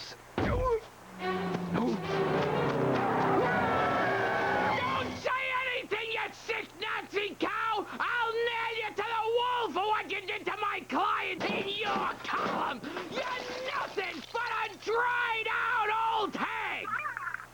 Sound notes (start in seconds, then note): 1.1 groans; 2.5 screeching